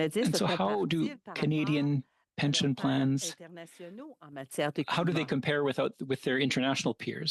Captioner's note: speaking French